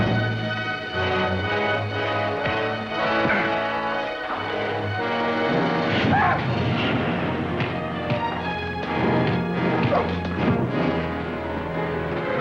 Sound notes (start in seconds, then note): 2.5 fist thuds; 6.1 Kearn yelps; 7.6 fists thud